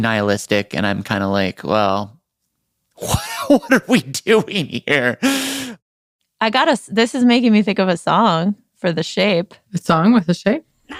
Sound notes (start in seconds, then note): 3.0 laughs